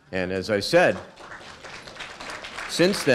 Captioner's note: applause